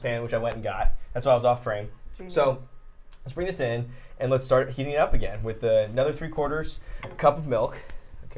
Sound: none

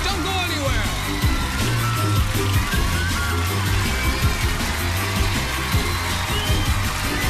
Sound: cheers and applause

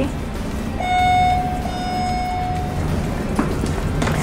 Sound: elevator dinging

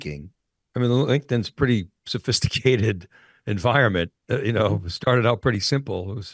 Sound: chuckles

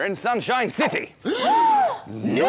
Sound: gasp!

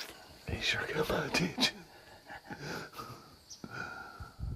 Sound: wind blowing

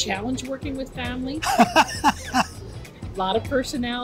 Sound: laughs

